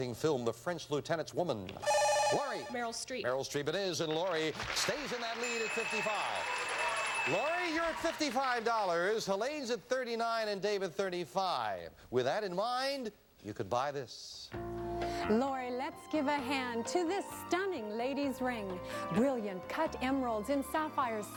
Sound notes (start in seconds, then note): 1.8 buzzer; 5.4 bell